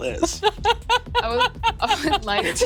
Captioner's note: Ally laughing